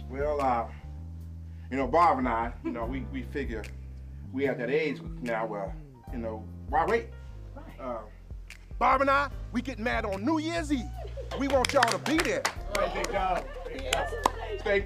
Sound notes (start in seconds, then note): 11.2 clapping